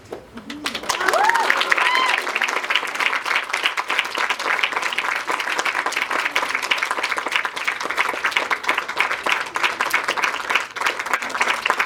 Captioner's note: clapping